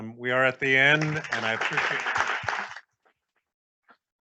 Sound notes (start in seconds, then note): 0.6 all applauding